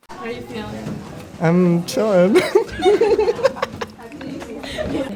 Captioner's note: laughs